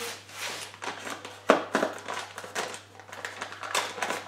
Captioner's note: knife cutting plastic